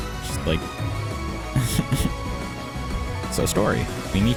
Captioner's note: laughter of cringe